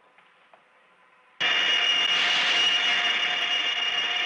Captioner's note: gun firing